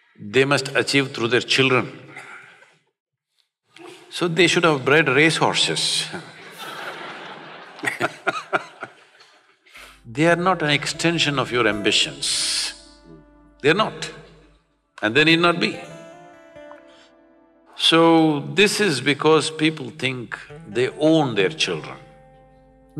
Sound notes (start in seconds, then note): 6.3 laughter